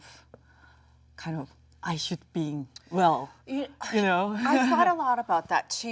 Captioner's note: Jung laughs